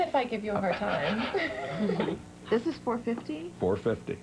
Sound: laughs

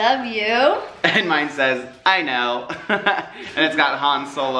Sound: laughs

